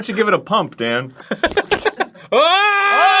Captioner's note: laughing